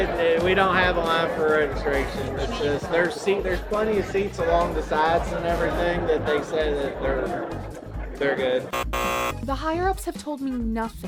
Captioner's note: loud incorrect buzzer